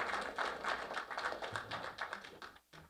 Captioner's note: applause